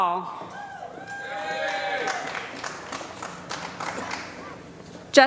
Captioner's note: applause